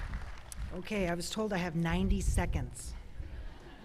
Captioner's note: applause